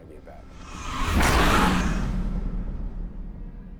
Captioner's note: soldiers screaming